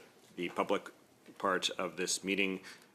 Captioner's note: speaking French